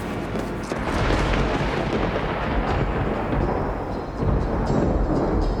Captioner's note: thunder rumbles